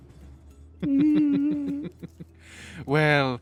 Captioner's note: laughs Ominously